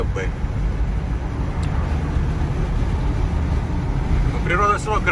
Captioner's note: car engine noise